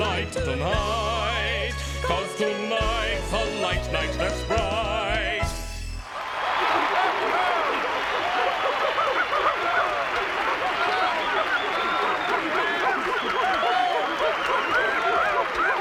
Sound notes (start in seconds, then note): 5.6 audience cheering, whistling and applauding; 8.6 monkeys hooting excitedly